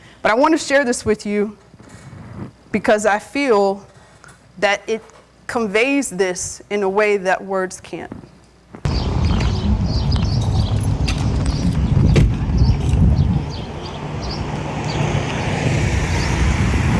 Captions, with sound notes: But I wanna share this with you, because I feel that it conveys this in a way that words can't. (birds chirping) (engine humming)